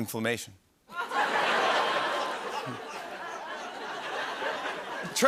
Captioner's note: laughter